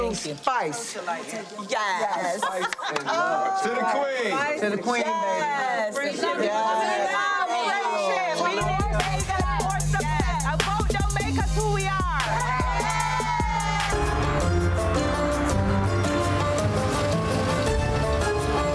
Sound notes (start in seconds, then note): 1.3 group laughing; 11.8 group cheering; 14.2 upbeat music